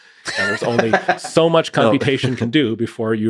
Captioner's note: Lex laughing